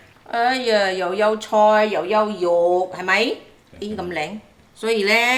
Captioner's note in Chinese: 廣東話